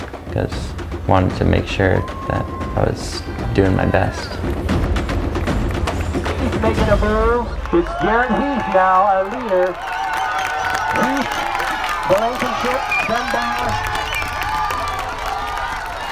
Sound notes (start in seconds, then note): 10.6 cheers